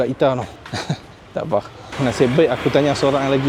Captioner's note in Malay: laugh